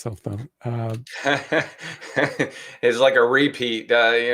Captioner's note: laughing